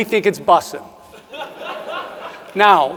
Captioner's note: audience member laughs